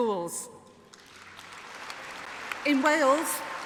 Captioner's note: applause